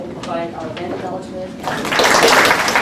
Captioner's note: applause